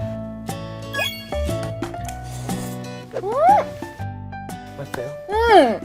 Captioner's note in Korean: 라면 호로록